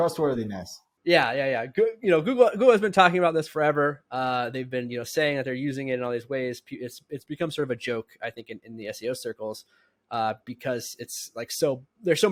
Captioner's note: speaking; speaking